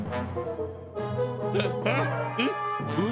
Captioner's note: grunting